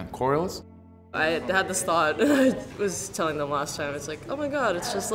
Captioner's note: laugh